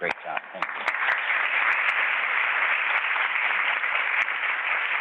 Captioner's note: audience applauds